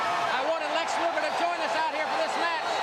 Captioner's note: crowd chatter